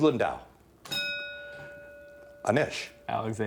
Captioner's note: bell ringing